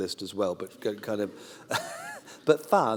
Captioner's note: laughter